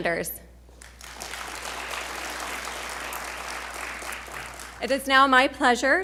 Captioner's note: audience applauding